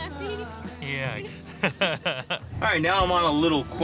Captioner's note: laughing